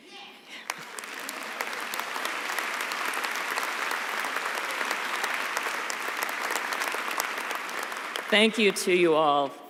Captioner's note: applause